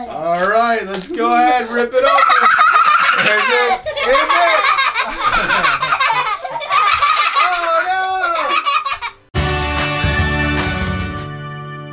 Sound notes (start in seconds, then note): 1.4 laughing; 8.4 joyful music